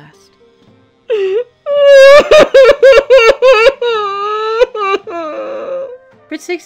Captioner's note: Emotional Shadow Sounds